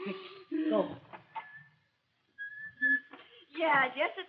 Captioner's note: whistles